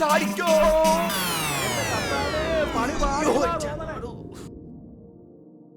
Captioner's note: screams